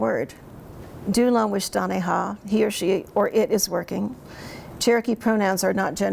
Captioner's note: speaks in Cherokee